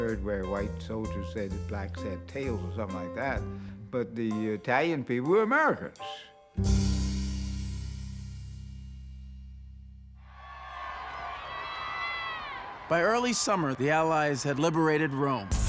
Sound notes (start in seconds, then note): 10.2 crowd cheering; 15.5 dramatic music